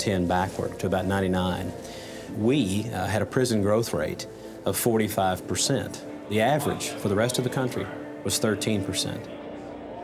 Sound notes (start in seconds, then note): none